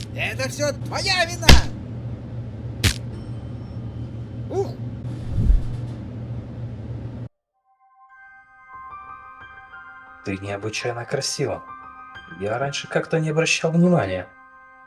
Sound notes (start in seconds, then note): 0.0 blows; 2.7 blows